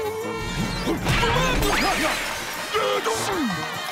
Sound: grunting

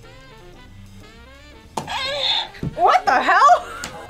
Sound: buzzer moans

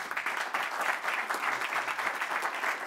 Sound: applause

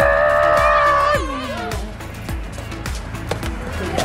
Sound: kids cheering

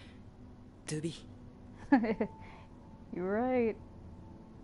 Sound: laughs

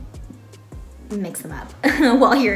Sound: laughs

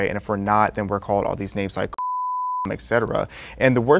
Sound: beep

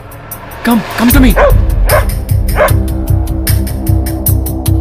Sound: dog barks

